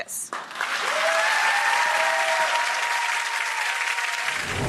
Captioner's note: audience cheering